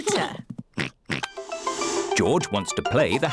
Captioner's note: oinks